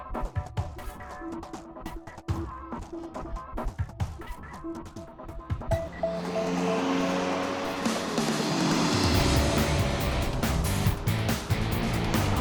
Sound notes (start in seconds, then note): 5.8 car engine revving; 9.7 brassy music